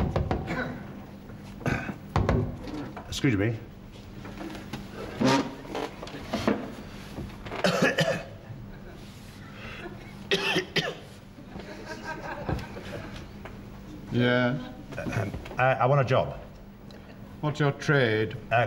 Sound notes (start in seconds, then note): 0.0 knocking; 4.1 chair scraping; 7.5 coughing; 10.2 coughing more emphatically